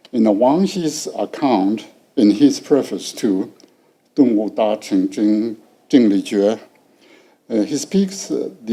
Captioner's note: speaking foreign language